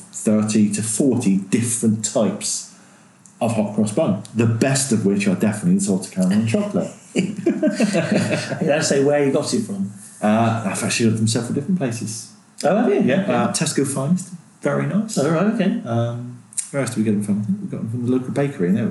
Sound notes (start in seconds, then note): 6.2 laughing